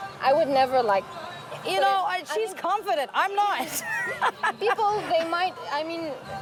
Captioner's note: laugh